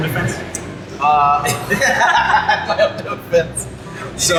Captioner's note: laughter